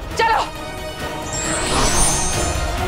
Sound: whooshing sound

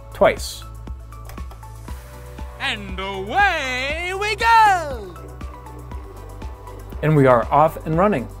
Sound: silly male voice: and away we go!

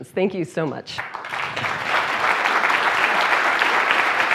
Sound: applause

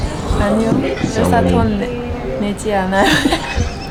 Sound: laughing

